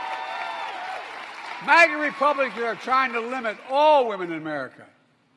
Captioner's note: applause